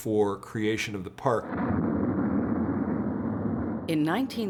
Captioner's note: shuttle roars